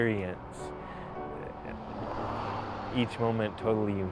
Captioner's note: car rumbles